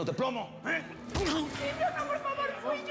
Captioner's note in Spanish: ruido de golpe contundente